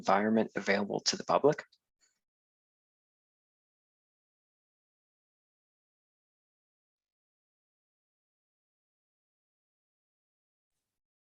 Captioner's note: silence